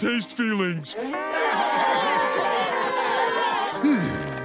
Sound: crying

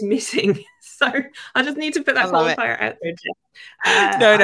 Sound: chuckling

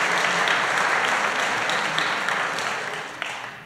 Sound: applause

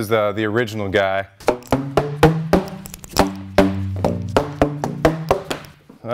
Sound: tapping on pipes

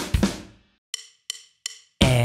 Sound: natural voice

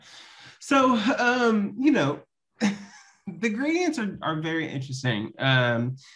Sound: laughs

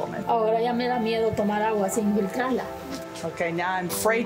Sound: speaking foreign language

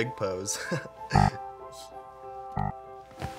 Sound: beeping

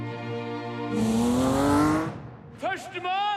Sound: engine revs

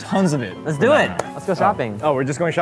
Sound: claps

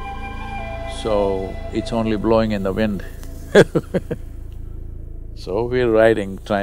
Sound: laughs

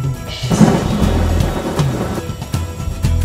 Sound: thunderstorm

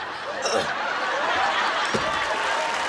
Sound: audience laughing; audience cheering, applauding

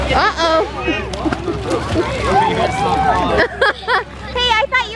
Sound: laughs

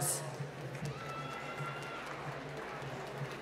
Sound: applause

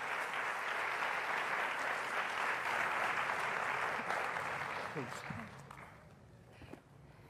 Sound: applause

